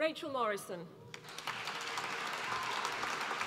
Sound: applause

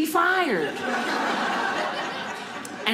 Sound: audience laughing

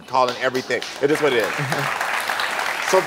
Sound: audience applauds

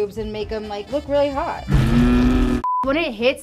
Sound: roar

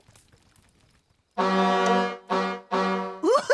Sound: honking

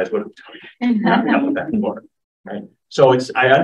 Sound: laughs

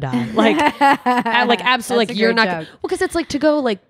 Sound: laughs

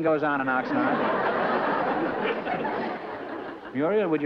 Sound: laughter

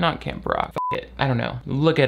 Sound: beep

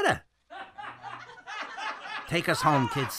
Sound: audience applauding

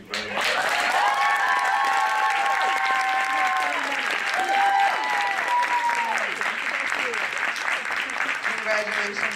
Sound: applause

